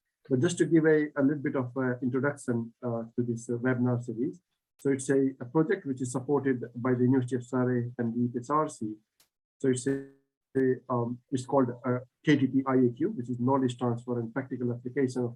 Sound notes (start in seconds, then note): 9.6 audio distorts